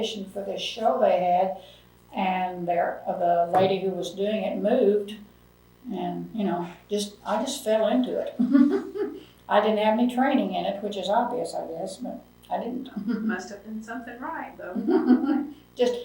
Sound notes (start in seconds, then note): 8.3 laughs